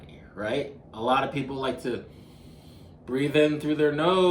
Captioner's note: inhaling